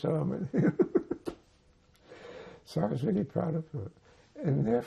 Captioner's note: laughing